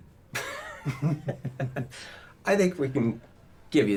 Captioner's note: both chuckling